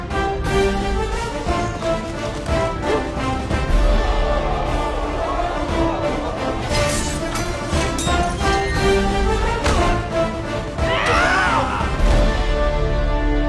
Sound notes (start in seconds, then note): 9.0 grunts; 10.7 yells